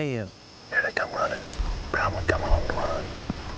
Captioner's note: whispering